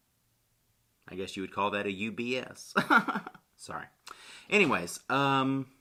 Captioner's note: chuckles